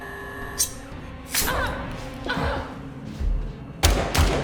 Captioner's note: Claire groans; knife flicks; gunshots banging